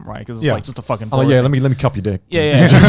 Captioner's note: laughing